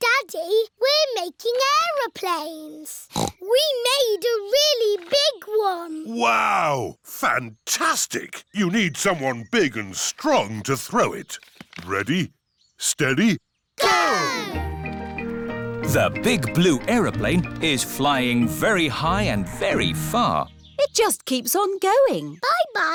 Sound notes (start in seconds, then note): 3.0 snorts